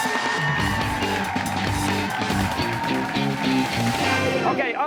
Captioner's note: cheers and applause